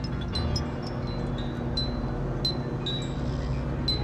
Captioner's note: fan whirring